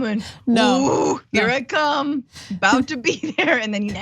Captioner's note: laugh